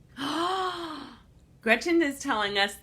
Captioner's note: gasps